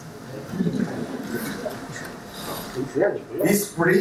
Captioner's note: laughing